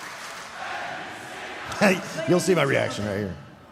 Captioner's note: crowd chanting